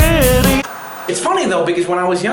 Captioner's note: upbeat music; white noise scratching